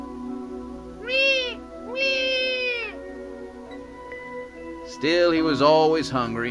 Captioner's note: sound of a baby crying